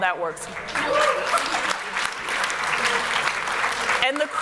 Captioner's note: applause